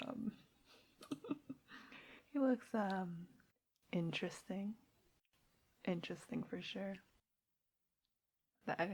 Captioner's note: laughs